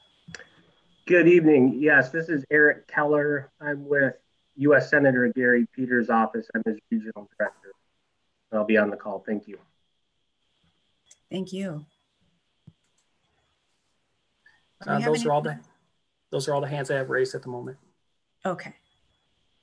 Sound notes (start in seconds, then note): 12.6 clicking